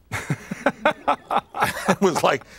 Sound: laughter

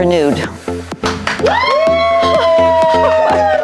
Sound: audience cheering

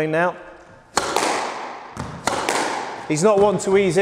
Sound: ball bouncing

